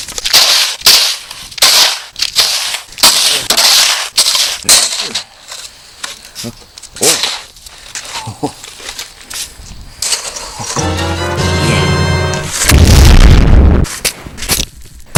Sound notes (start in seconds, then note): 0.3 snow scraping noices; 7.0 snow scraping noices; 10.7 zelda noice; 13.8 flex tape slap